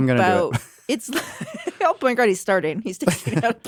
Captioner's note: chuckles